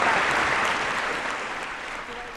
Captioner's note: applause